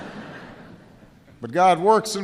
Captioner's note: laughter